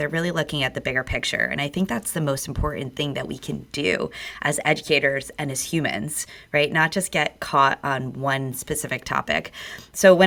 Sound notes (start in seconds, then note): none